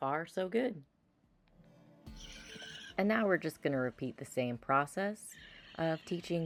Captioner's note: mechanical whirring noises